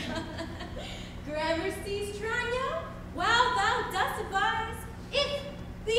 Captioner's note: laughs